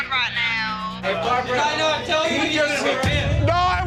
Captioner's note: customers chattering